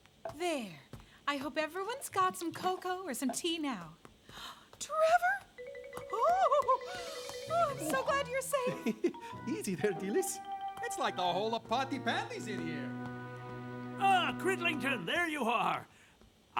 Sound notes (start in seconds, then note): 4.2 gasp; 8.4 chuckles